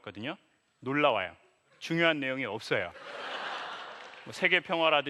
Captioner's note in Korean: 웃음